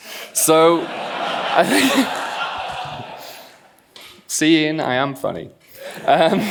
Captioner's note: laughs; laughs